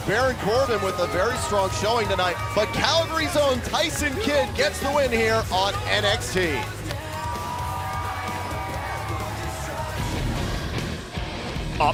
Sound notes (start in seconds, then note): 6.5 crowd cheering